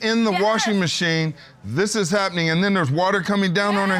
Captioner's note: crying